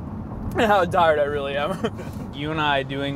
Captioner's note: laughs